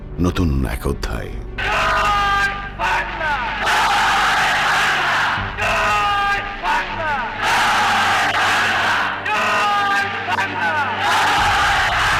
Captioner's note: echoing